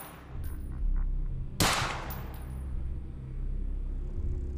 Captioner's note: gunshot